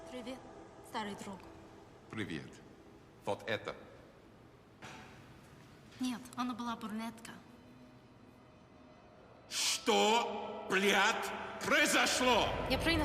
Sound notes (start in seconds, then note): 0.2 Irina speaking in a foreign language; 2.3 Russian agent speaking in a foreign language; 6.1 Irina speaking in a foreign language; 9.6 Russian agent speaking in a foreign language; 12.8 Irina speaking in a foreign language